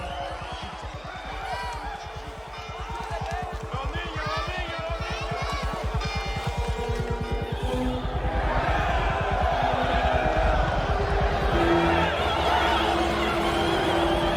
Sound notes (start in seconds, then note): 1.6 shouting; 6.6 triumphant music; 9.1 cheering